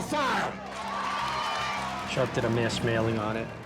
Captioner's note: cheering